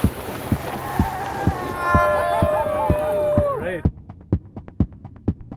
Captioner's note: adventurers cheering